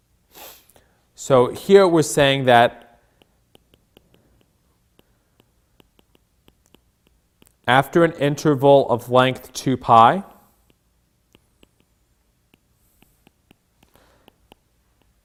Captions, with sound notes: So here, we're saying that (stylus tapping) after an interval of length two pi, (stylus tapping)